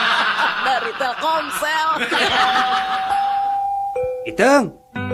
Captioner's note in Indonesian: tertawa